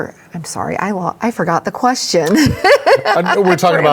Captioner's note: everybody laughs